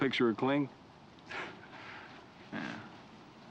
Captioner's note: laughs